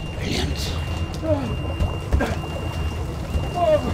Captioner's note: moaning; alarm blaring continues; suspenseful music continues